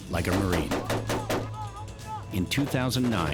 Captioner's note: gunfire